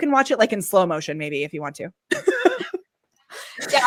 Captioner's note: laughs